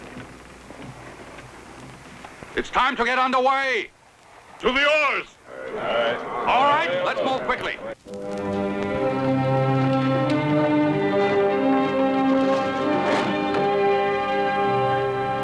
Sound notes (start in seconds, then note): 5.4 chatter; 10.7 grandiose music